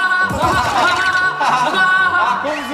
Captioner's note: hahahaha